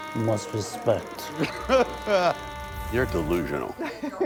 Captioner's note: laughing